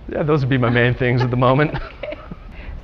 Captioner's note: laughter